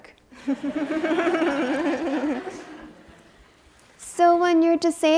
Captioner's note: audience laughs